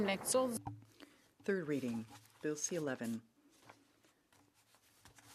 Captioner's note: speaking French